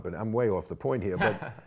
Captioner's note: laughs